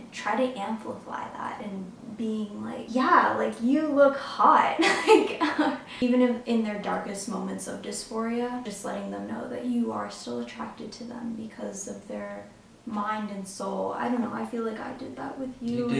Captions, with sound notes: try to amplify that and being like, yeah, you look hot. (laughs) Even in their darkest moments of dysphoria, just letting them know that you are still attracted to them because of their mind and soul. I don't know, I feel like I did that with you.